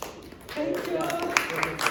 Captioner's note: applause